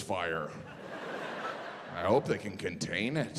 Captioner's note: audience laughing